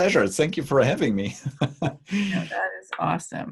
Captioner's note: laughs